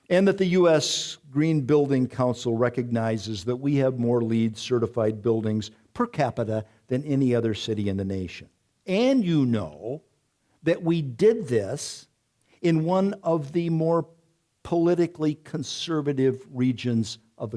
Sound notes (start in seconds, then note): none